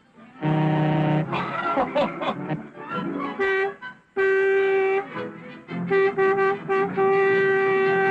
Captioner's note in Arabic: بوق انفجار ركلة